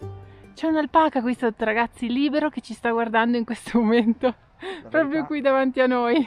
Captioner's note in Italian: risate